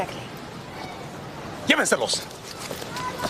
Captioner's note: speaking Spanish